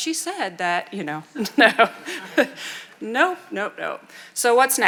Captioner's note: chuckling